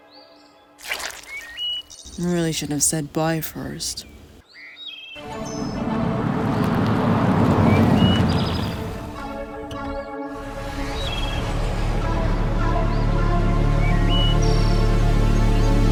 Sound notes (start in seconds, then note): 7.9 car pulling up; 7.9 menacing music